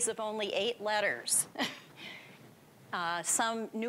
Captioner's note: chuckling